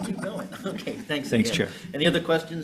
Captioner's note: chuckling